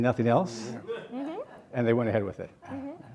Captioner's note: audience laughing